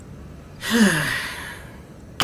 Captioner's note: exhausted sigh